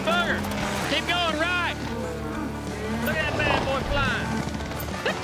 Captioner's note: helicopter whirring